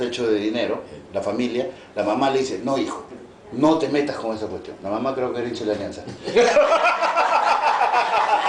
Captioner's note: laughs